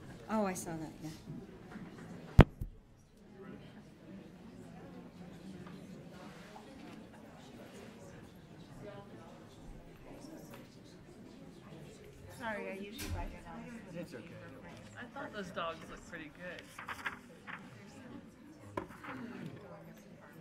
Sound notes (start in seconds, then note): 2.3 people chattering; 17.3 people chattering